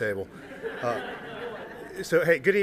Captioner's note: laughter